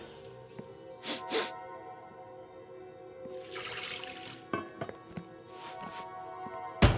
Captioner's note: eerie music; chef sniffs